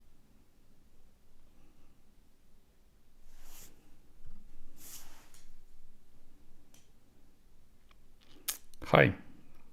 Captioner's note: silence